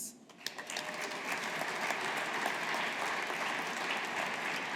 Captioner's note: audience applauding